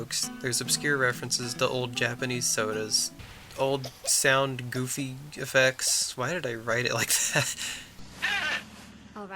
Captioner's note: creaking noise